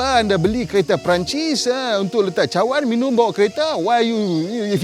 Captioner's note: in fake French accent